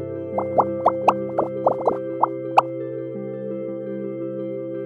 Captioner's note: bubbles popping